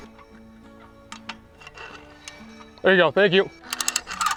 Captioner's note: gears clunking